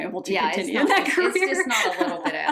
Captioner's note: laughing